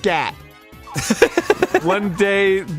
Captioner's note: laughing